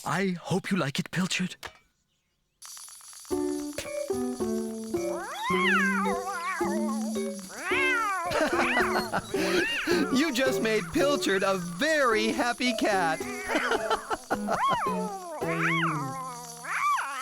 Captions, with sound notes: I HOPE YOU LIKE IT, PILCHARD. ( Toy Clicking ) ( Excited Meowing ) ( Laughing ) YOU JUST MADE PILCHARD A VERY HAPPY CAT! ( Meowing & Clicking Continues )